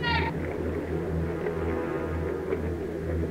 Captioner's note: wooshing portal noises like when you tear open space/time